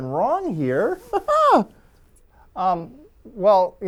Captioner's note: laugh